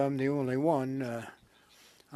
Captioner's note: speaking French